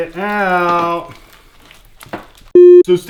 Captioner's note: beep